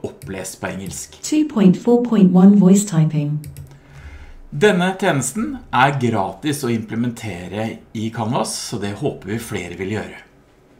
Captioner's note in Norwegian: Leser opp på engelsk